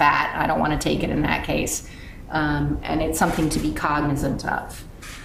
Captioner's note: none